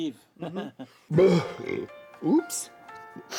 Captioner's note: burps